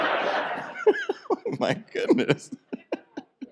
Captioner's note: laughing